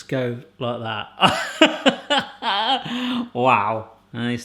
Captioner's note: laughs